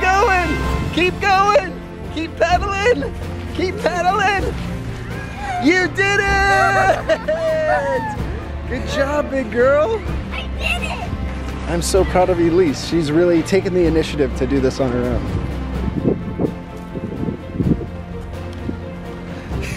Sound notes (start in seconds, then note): 0.0 inspirational music; 7.5 cheers; 16.5 inspirational music